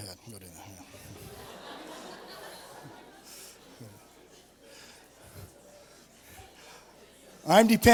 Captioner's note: laughter